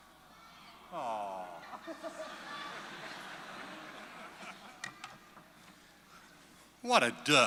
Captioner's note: laughter